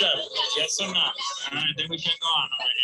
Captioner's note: participants agreeing